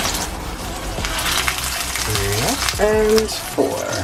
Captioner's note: pan sizzles